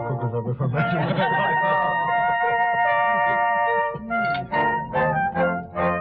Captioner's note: laughter